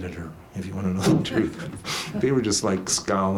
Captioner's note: laughs